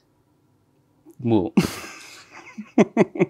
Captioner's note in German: lacht